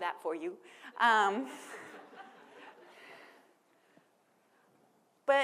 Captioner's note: people laughing